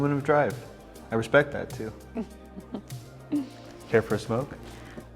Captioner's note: Eden chuckles